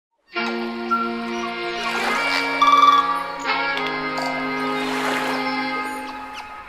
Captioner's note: calming music; beach sounds